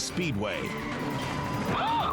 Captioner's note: tires screeching